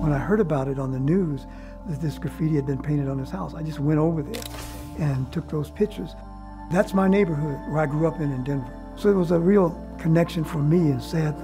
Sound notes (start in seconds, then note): 4.3 photo snapping